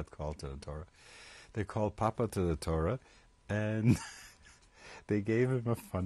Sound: laughs

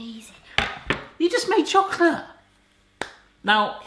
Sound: hands clapping

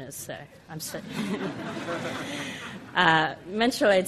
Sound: audience laughs

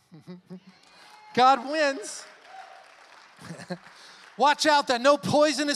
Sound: chuckling; congregation cheers and applauds

